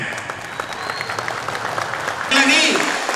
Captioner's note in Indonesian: tepuk tangan